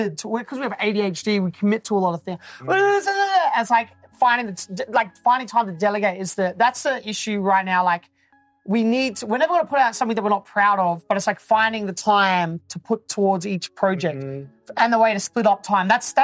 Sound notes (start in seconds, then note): none